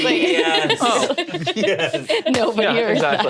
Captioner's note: all laughing